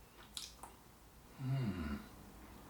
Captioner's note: smacks lips